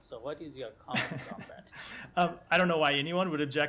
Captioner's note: laughter